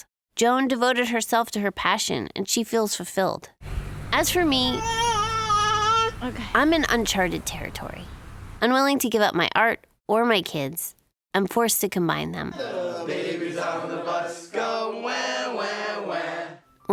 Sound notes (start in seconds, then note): 4.5 child crying; 12.9 singing